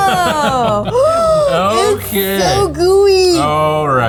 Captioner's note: laughing; gasping